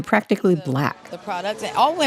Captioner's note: soundbite of archived recording